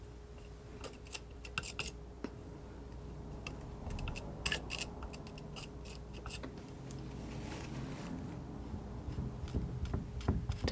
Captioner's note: scraping